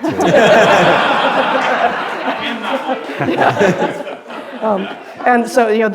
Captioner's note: laughter